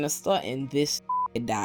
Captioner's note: beep